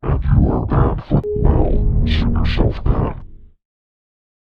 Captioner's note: Windows XD Random Edition Shutdown Sound in -24 Pitch